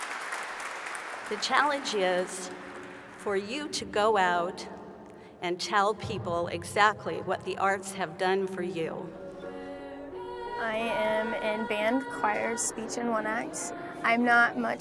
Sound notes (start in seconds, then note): 0.0 applause